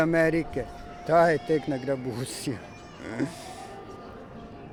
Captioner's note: laughs